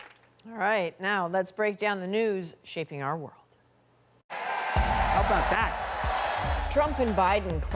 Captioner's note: applause